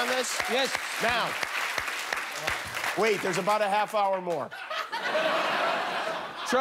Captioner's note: applause